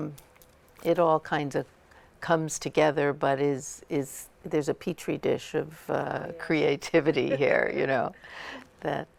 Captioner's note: laughter